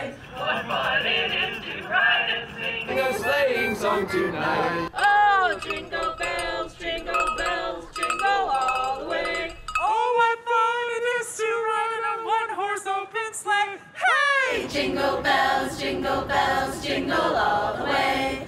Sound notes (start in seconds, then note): 4.1 harmonica playing; 9.0 bell ringing